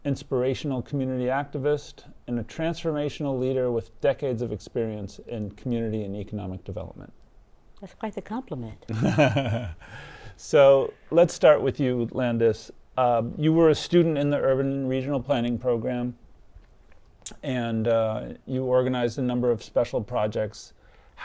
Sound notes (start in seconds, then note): 8.9 laughs